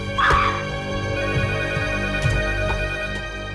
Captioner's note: screams